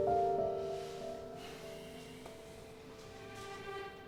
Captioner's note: sighing